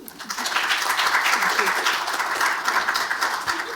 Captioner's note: applause